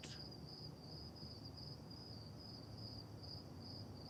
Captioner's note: crickets chirping